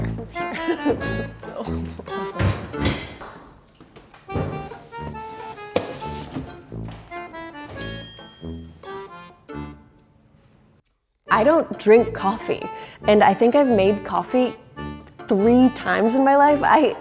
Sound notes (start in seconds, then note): 0.3 nervous laughter; 7.8 dinging